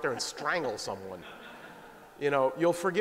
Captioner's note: laughter